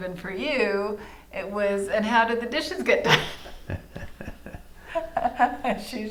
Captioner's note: laughing